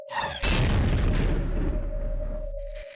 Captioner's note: loud explosion in space vacuum